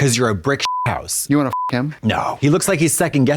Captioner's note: beep